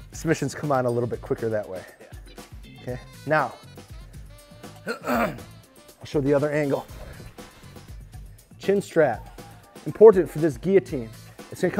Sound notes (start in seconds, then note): 4.8 clears throat